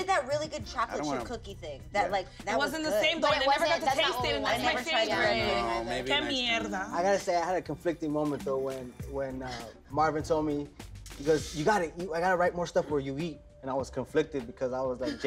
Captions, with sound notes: - He did that really good chocolate chip cookie thing. - It wasn't the same though, I never got to taste it and that's my favorite. - I know. - (speaks in a foreign language) - I gotta say I had a conflicting moment though when Marvin told me, he goes I gotta write more stuff where you eat and I was conflicted because I was like,